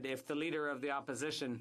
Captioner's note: speaking French